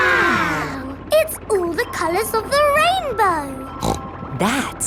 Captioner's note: snorts